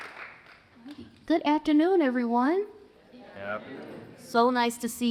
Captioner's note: audience murmurs